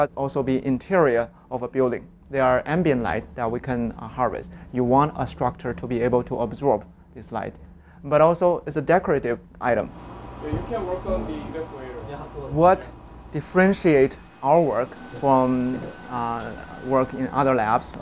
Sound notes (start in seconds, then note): 9.7 sounds of lab